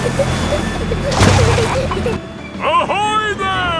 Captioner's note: peppa and george giggling